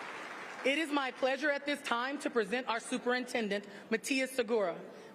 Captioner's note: applause